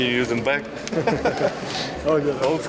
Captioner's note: person laughing